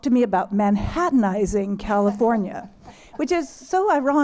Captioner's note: laughter